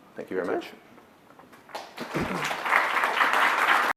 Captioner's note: applause